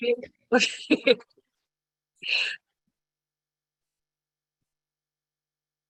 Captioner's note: laughter